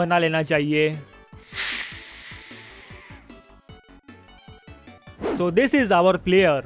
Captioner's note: heavy inhale